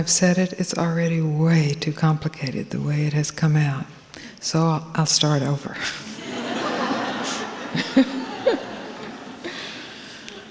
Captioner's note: laughter